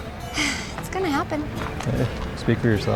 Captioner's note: sighs